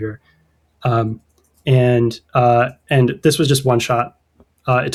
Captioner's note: uh; uh